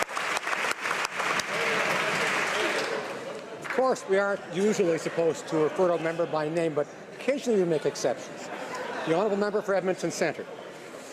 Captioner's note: applause